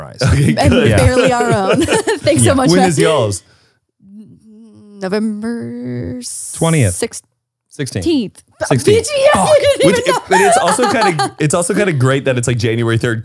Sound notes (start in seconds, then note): 8.6 laughs